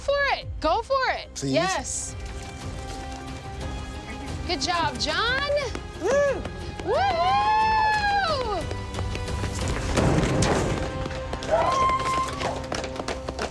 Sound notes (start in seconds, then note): 6.9 all cheering; 11.4 cheering